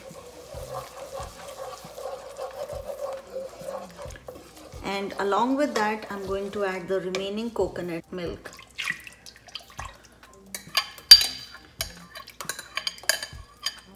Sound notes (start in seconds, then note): 0.0 spoon scraping; 8.4 milk splashing; 10.5 spoon scraping